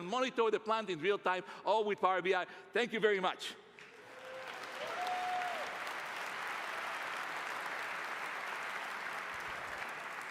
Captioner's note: applause